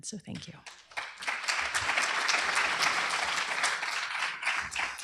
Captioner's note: applause